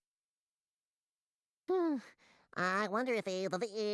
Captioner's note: sighing